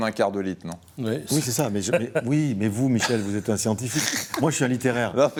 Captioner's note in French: rires